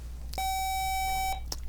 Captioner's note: buzzer